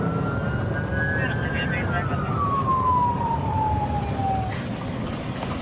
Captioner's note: police sirens blaring; dispatch chatter